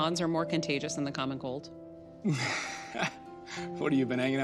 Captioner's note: chuckles; laughs